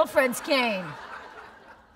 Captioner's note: laughter